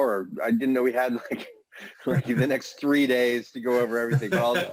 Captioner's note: laughter